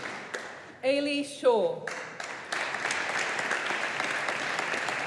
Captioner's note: audience applauding